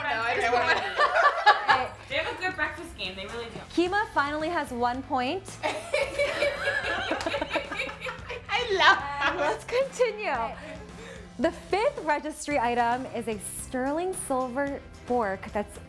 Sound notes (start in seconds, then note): 0.7 laughing; 5.6 laughing